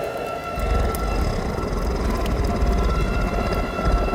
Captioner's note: demonic growl